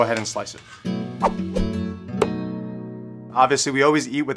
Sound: bright music; air whooshing

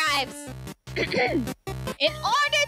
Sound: clears throat

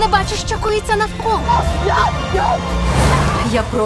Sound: yelling

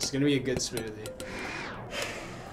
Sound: blades whir

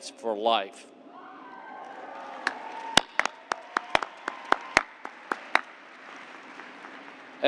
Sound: cheers and applause

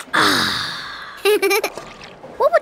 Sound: laughing

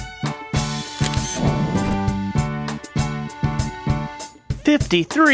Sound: SFX: Camera Shutter

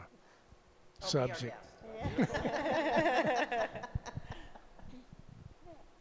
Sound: laughs

